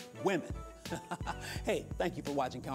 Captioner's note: laughing